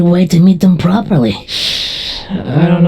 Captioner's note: VIXEN inhales through teeth